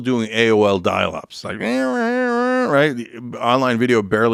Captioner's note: imitates modem